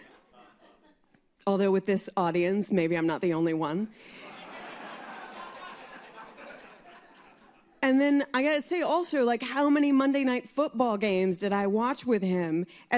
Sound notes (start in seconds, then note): 7.0 laughter